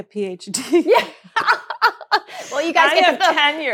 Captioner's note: laughs